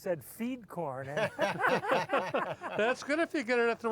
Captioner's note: all laugh